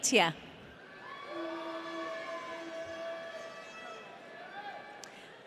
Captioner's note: audience cheering